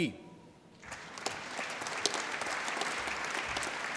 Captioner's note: applause